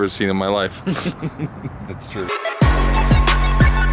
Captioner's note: laughing; hip hop music